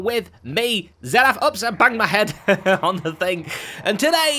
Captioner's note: chuckles